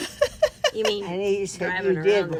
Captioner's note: laughs